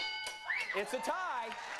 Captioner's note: bell dinging